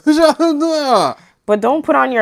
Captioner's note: mma sounds